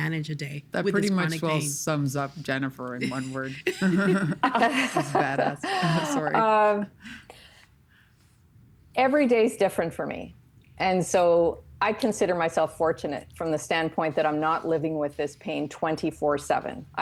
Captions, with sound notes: That pretty much well sums up Jennifer in one word. (Laughing) Badass. Sorry. Every day is different for me. And so, I consider myself fortunate from the standpoint that I'm not living with this pain 24/7.